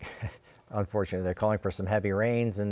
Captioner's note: chuckles